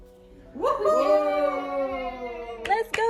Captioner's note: whooping